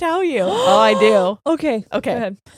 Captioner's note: gasping